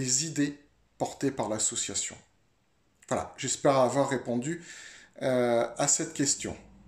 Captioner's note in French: Voix off